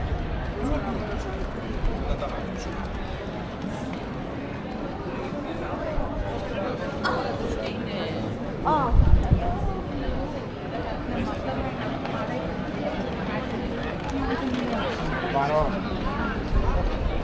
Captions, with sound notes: people are in the way. (people chattering)